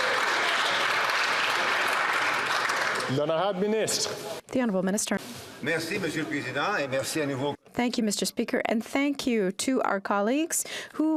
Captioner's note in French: applaudissements